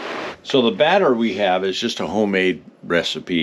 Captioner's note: water flowing